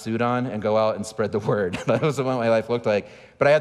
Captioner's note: laughing